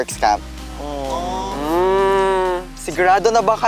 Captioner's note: campers aww-ing